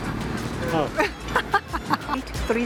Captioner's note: laughs